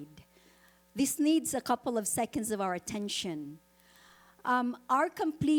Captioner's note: none